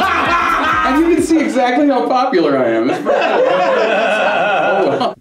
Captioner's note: laughter